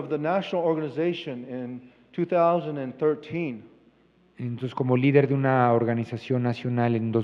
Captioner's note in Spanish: Expositor habla en inglés